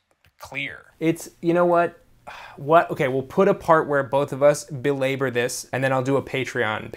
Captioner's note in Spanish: suspiro